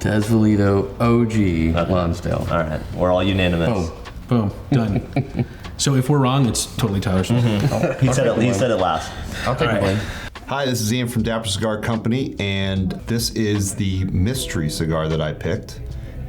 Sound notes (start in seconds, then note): 4.6 laughs; 7.1 all laughing